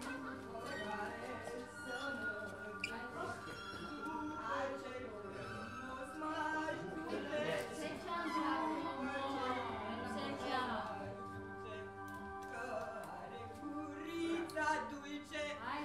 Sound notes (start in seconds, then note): 4.4 trembling voice